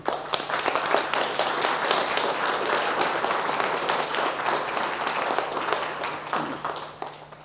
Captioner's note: audience applause